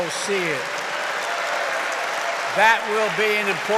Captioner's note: applause